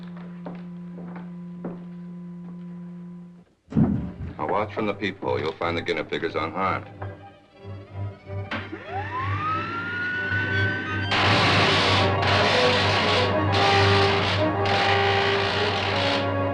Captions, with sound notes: Now watch from the peep hole. You'll find the guinea pig is unharmed. (suspenseful music) (machine whirring) (dramatic music) (electricity crackling)